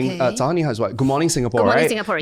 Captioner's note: speaking Mandarin